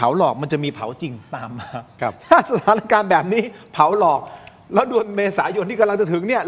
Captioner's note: laughs